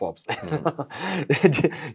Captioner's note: laughs